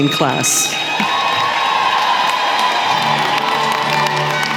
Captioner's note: cheering & applause